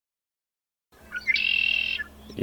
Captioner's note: songbird